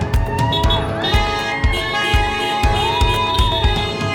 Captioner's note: crowd cheering